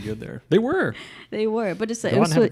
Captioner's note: laughs